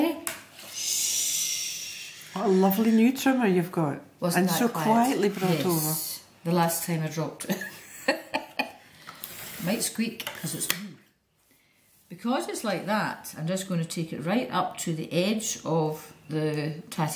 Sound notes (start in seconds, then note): 7.1 laughs